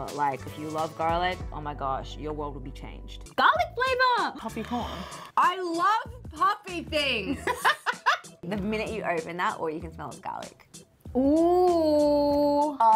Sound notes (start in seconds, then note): 4.7 gasps; 7.5 laughing